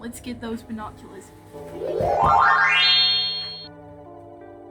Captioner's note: magical noises for a magical girl